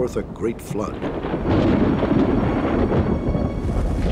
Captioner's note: thunderstorm